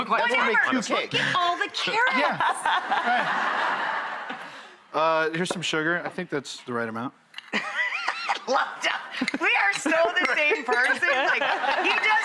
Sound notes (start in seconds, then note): 1.8 audience laughing; 7.5 Rachael laughing